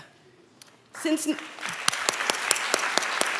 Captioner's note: applause